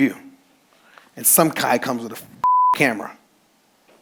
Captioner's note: beep